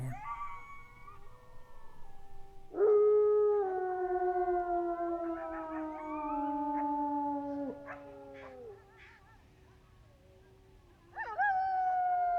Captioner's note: howling wolves, wind